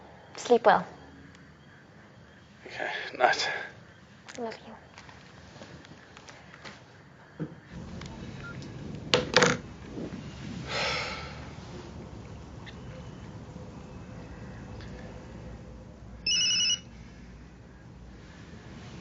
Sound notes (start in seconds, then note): 9.2 clatters; 10.6 sighs; 16.3 ringing